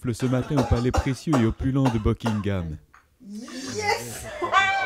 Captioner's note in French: étouffements